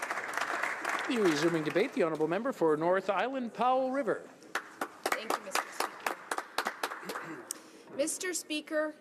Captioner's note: applause